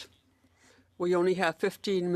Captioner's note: speaking French